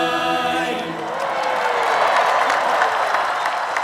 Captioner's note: cheering